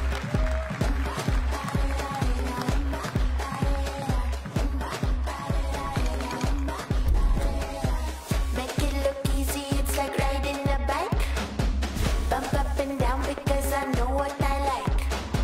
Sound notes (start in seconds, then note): 0.0 cheering